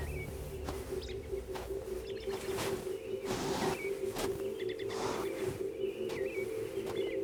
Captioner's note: birds chirping; footsteps thudding